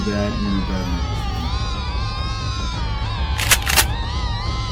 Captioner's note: gunshot